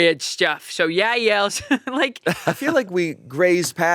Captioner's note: laughing